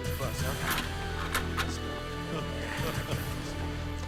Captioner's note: overlapping chattering; Latrell laughs